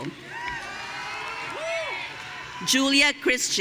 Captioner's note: audience cheering